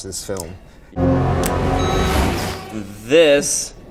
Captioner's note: dramatic sound